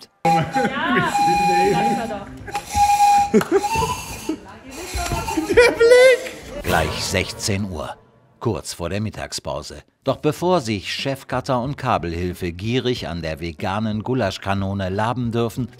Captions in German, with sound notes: Ja, ich sag's ja doch. (Lachen) (Erstickte Töne) (lacht:) Der Blick! Doch bevor sich Chefcutter und Kabelhilfe gierig an der veganen Gulaschkanone laben dürfen,